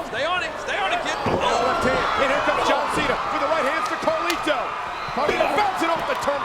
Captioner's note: presenter speaking faintly off mic